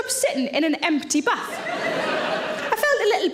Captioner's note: audience laughs